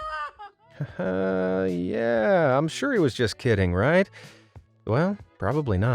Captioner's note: nervous